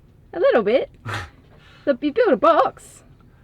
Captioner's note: chuckling